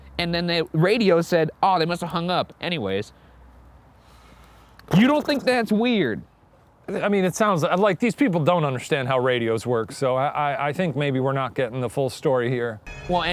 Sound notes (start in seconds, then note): none